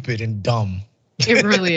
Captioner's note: laugh